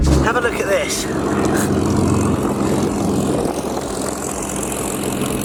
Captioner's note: plane engine roaring